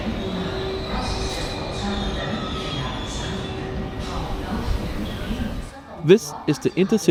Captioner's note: train Braking